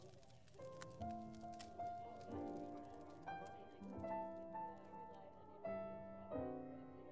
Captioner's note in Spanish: fuego crepitante; multitud murmurando